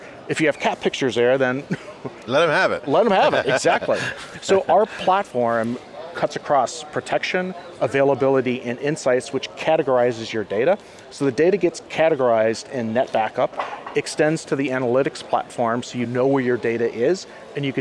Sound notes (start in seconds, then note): 3.1 chuckles; 3.2 laughs